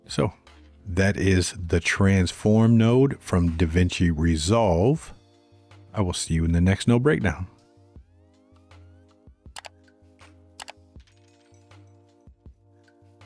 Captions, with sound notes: So that is the transform node from DaVinci Resolve. I will see you in the next node breakdown. (keyboard clicking)